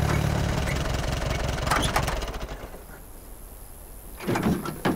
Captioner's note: tractor turns off